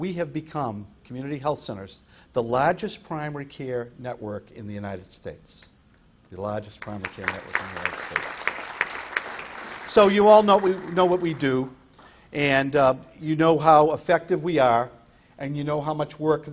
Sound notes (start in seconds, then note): 6.8 applause